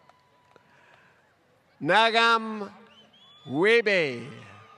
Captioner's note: applause